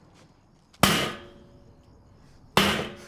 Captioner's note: bangs